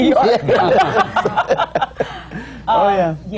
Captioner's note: laughs